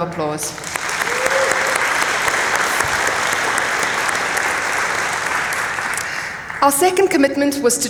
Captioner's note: applause